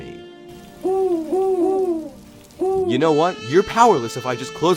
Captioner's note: chirping